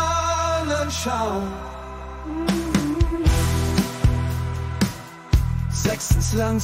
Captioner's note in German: mmm mmm mmmmmmmm